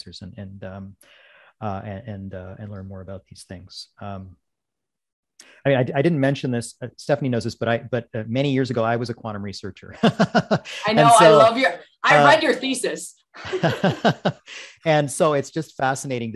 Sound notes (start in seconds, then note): 9.9 laughing; 13.4 both laughing